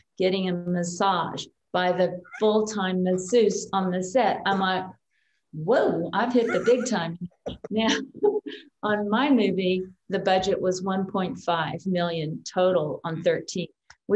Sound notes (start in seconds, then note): 6.4 both chuckle